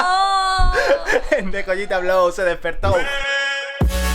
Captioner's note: laughs